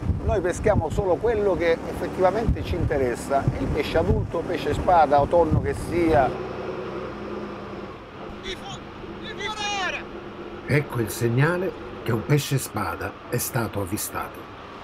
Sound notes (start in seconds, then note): 8.4 shouting in Sicilian dialect